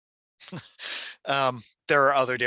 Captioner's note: chuckles